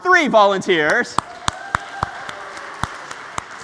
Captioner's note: applause